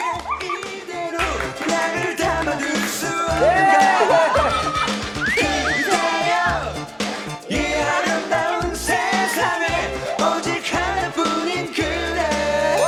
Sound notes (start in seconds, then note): 5.1 excited